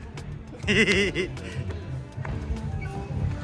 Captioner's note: laughing